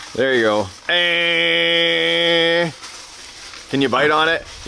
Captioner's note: exclaims